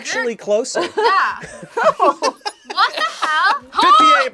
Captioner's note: React laughs